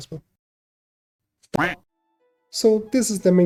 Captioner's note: happy duck sounds